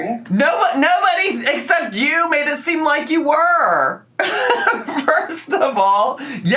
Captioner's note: laughs